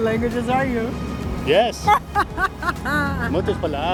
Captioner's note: laughs